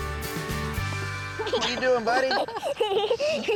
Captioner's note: giggling